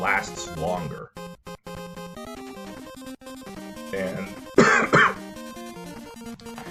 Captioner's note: coughs